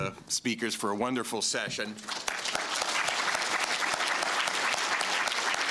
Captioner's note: applause